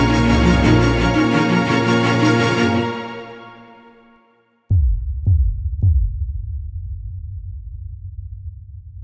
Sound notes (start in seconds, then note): 5.0 graphic thudding